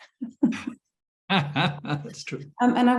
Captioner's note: chuckling